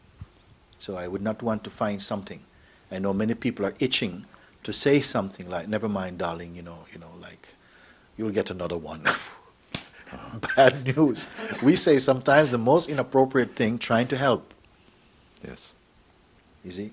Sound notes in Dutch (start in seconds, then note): 9.9 M lacht